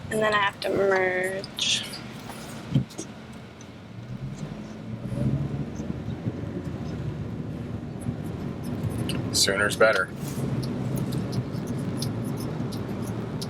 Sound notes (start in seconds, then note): 4.3 engine revving; 10.4 turn signals clicking